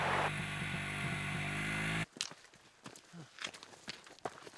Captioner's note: bike whirring